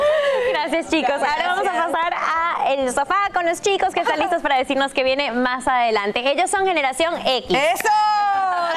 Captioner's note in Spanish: risas